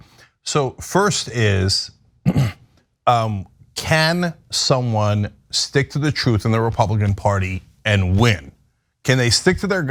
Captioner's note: cough